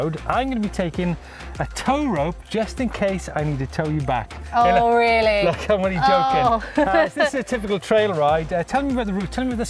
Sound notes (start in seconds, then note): 6.3 laughter